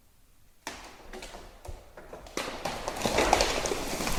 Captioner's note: tree snapping